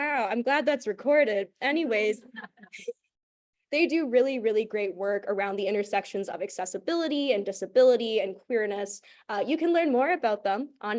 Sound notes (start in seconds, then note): 2.3 laughter